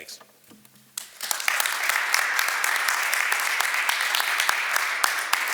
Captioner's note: audience applauds